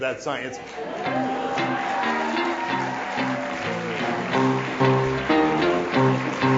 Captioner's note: audience cheers; rhythmic piano music